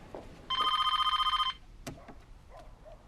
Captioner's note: PHONE RlNGlNG